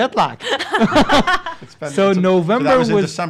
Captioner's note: laugh